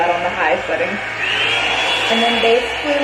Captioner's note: hair dryer whirring